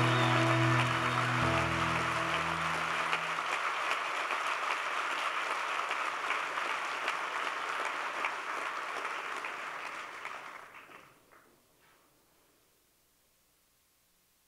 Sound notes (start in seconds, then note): 0.0 applause